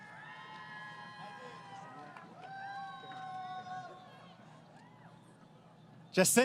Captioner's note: crowd Cheering